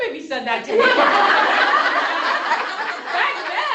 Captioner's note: laughter